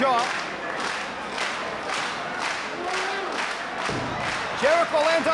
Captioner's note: audience applauding